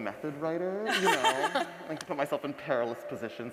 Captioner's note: laughs